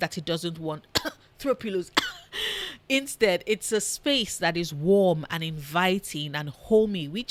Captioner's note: cough